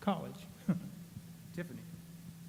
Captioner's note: chuckles